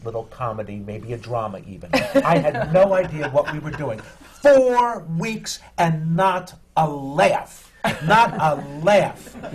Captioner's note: laughs